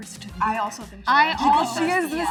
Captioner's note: all mumble in agreement